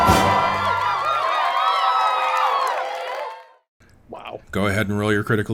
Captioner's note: critical Hit fx